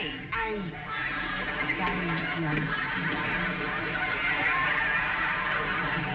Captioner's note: audience laughing